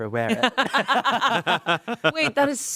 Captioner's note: everyone laughs